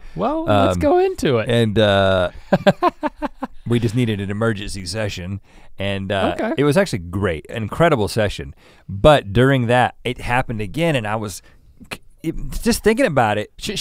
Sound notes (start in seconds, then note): 2.5 Link chuckles